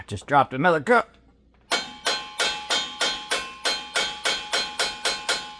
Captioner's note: clanging